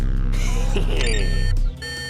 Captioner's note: chuckles; beeps